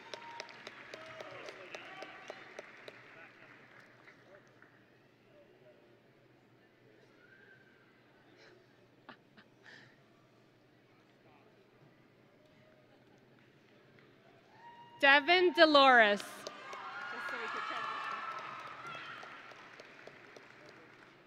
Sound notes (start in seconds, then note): 0.0 audience and graduates cheering; 16.9 audience and graduates cheering